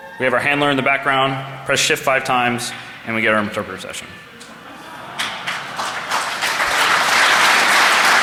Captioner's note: applause